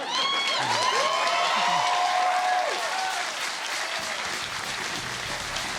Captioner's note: laughter; cheers and applause